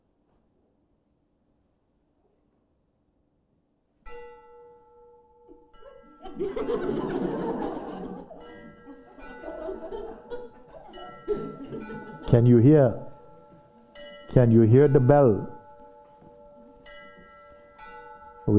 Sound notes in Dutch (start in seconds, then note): 3.9 klokgelui luidt het nieuwe jaar in; 5.8 gelach